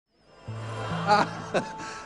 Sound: chuckles

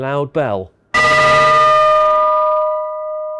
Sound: A very very loud bell chime

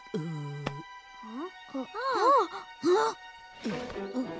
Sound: both gasp; person grunting

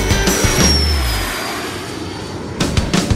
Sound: plane engine roaring

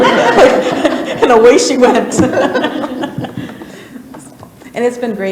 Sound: laughter; laughs

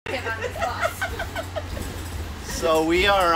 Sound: woman giggling

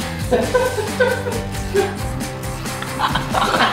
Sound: energetic music; laughing

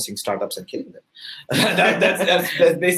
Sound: laughter

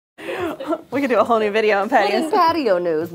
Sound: laugh

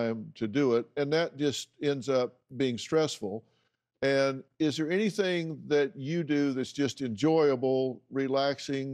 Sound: none

